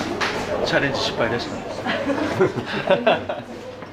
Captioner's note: laughs